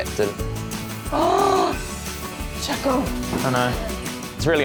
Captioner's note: gasps